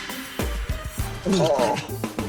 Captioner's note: gulps